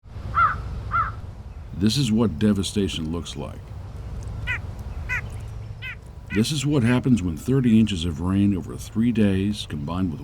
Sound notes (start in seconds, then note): 0.9 bird cawing; 5.0 bird cawing